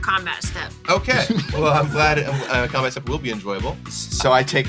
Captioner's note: laughs